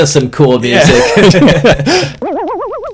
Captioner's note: laughs